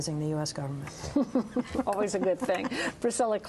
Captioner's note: laughter